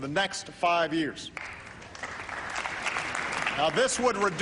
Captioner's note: applause